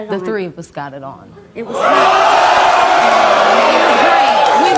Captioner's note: audience cheering